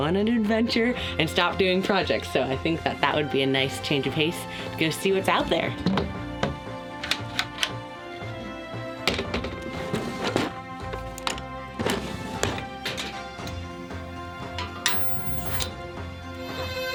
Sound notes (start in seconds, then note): 6.3 wooden cover tapping; 7.0 locks clanking; 8.0 door tapping against wood; 10.1 tools and drawers rattling; 12.8 kettle settling on stove top; 14.8 lighter tapping against metal